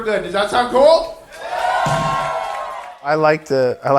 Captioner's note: audience cheering